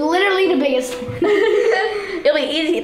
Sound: laughing

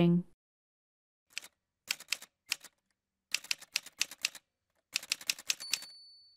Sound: typewriter sounds

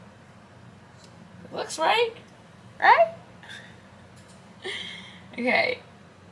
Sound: laughs

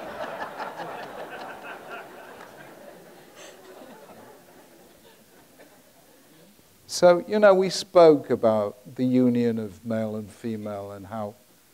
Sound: audience laughs

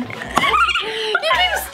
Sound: screaming

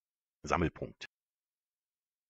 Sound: fast Pronunciation

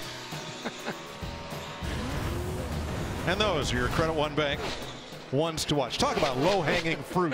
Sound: laughs

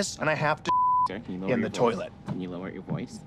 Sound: beep

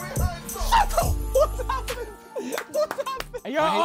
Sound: laughing

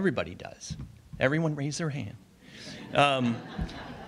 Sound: audience laughs

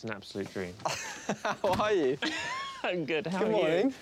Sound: laughing

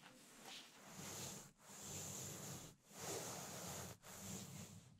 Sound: fur rubbing

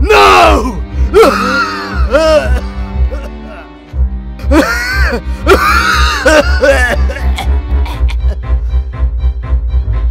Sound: coughing badly

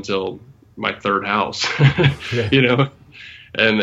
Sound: laughs

